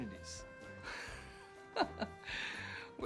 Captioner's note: laughs